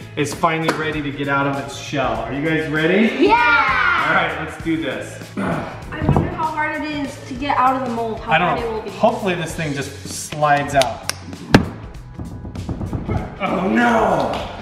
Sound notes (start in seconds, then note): 10.2 slapping; 12.0 drumming